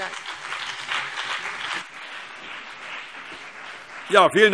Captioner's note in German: Beifall CDU und BÜNDNIS 90/DIE GRÜNEN